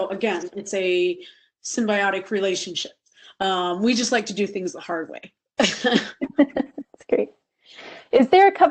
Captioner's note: laughing